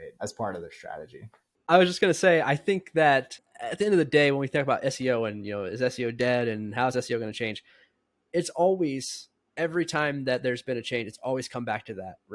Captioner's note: speaking